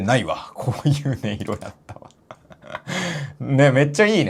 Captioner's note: laughs